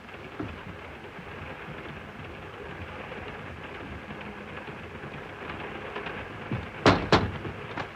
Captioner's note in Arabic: صوت خشخشة القطار; طرق على النافذة